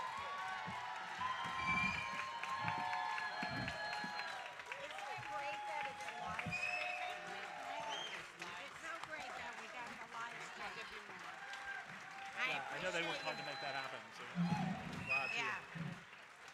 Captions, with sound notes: (speakers conversing quietly) - I know they weren't hard to make that happen, so glad. - Yeah.